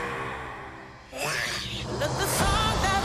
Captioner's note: lady roars softly; boy roars